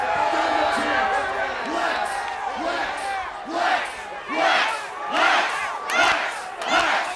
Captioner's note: applause